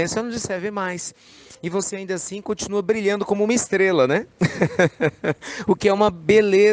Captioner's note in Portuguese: Risos